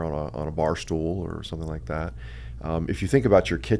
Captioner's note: none